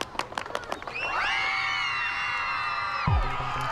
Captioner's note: children screaming